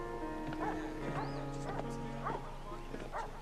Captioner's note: indistinct chatter